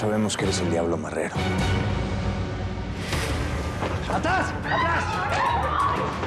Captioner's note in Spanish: gritos